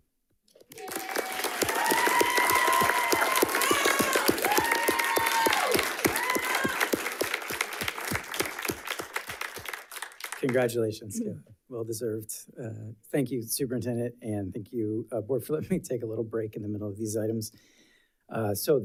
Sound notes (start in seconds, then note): 2.0 audience cheering; 4.9 audience applauding